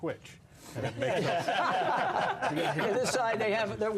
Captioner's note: laughter